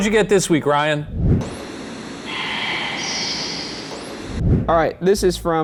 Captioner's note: radio static; whispering voice